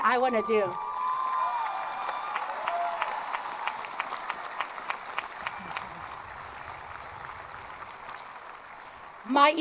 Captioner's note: applause